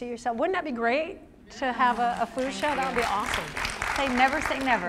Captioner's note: applause